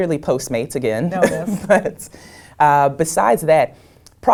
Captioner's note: laugh